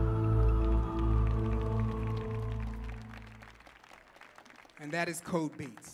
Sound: audience clapping

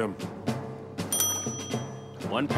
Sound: ring

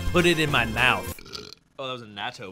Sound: belches

